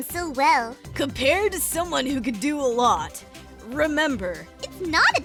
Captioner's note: vinyl Scratch